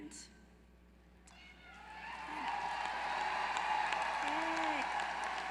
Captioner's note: applause